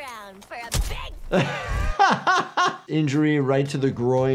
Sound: laughing

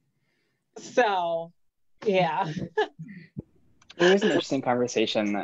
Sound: laughing

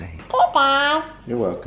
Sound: babbles

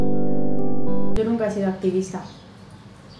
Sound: birds

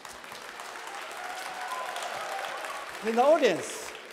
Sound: applause

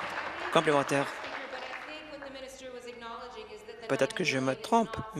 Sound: applause

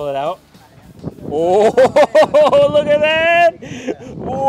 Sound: laughs

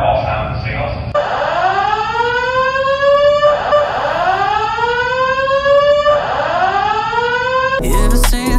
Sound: fire alarm

